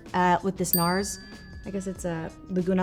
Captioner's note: bell pings